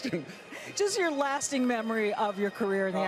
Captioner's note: laughs